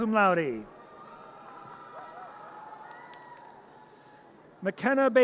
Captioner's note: audience cheers